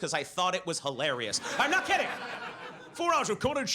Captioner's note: audience laughs